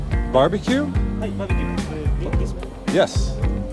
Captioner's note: speaks foreign language